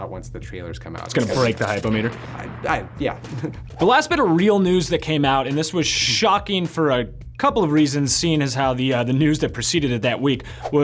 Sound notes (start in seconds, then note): 1.0 meter explodes; 3.2 laughs